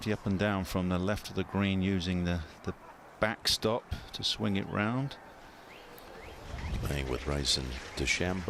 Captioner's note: applause